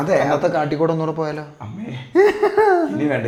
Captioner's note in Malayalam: പൊട്ടിച്ചിരി